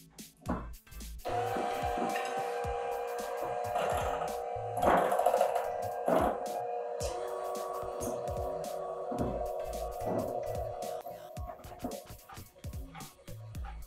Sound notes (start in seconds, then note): 2.3 electric mixer whirring; 11.2 upbeat music